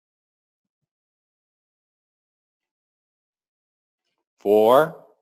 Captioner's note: pause